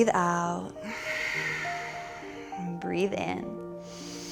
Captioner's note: deep breathing